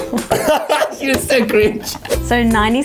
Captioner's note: laughing